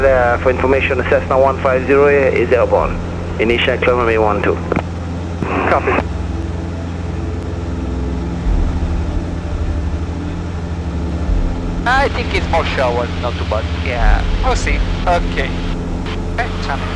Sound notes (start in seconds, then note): 3.5 radio chatter